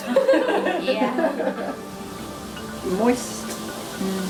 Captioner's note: women laughing